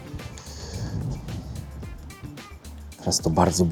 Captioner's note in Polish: parsknięcie